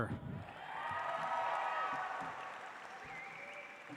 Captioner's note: audience applauds